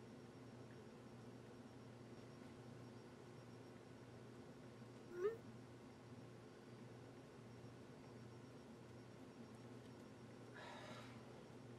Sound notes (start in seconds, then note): 5.1 new message noise; 10.5 sigh